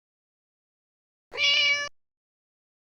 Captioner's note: meow